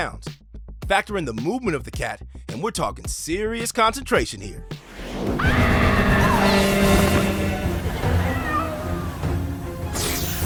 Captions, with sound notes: Factor in the movement of the cat, and we're talking serious concentration here. [screaming] [meowing]